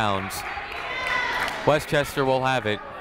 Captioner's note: people shouting in the crowd